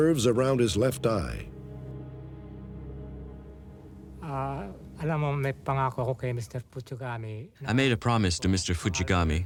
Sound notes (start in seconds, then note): 5.3 non-english speech